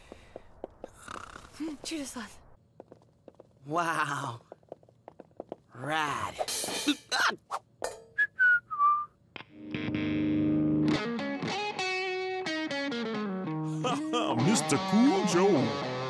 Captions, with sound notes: - Two days left. - Wow! Rad! Ah! (whistling) (guitar melody) - Haha! Mr. Cool Joe!